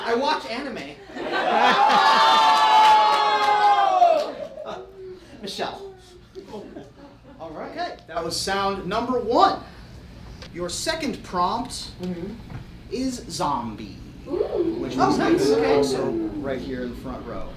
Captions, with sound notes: - I watch anime. (audience roars) - Michelle. - All right, that was sound number one. Your second prompt is zombie. - Oh, nice, okay. - So right here in the front row.